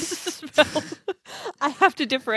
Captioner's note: laughs